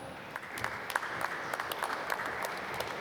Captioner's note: applause